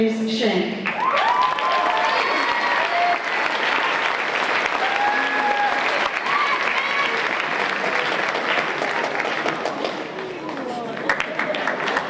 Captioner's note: applause